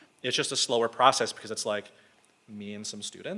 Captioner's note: none